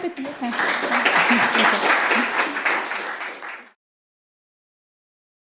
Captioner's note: applause